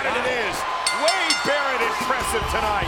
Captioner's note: bell ringing